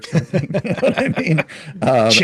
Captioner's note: both laughing